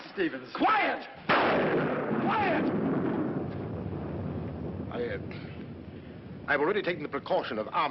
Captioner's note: thunder